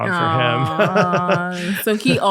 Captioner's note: laughing